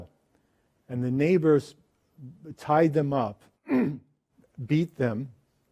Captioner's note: clears throat